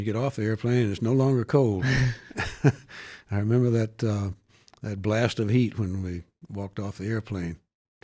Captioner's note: laughs